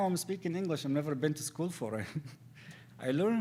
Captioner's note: laughs